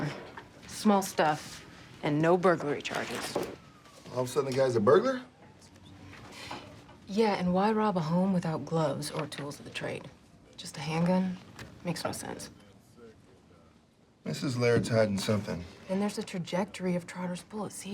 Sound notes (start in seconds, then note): none